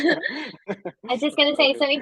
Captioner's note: chuckle